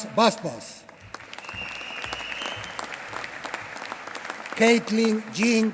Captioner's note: applause